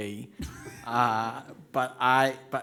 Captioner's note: laughs